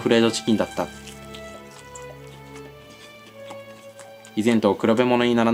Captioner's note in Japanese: 咀嚼音